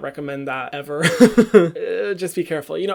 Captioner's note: laugh